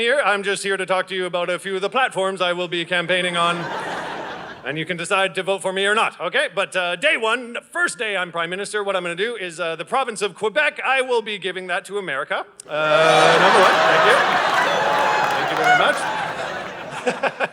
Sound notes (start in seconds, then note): 3.2 audience laughing; 12.7 audience laughing